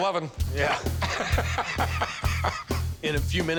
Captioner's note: chuckling